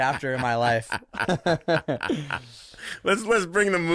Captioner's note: laughing loudly